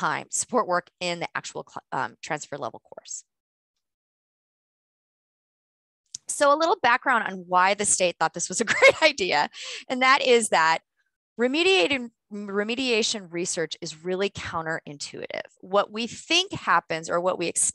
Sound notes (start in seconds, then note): 8.6 laughter